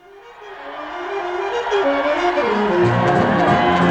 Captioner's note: crowd Cheering; cheering Continues